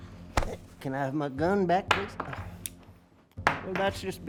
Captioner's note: sighs